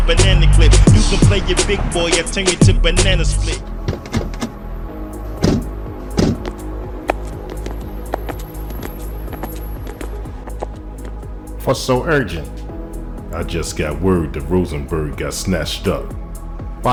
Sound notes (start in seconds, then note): 6.0 doors close; 7.5 footsteps fall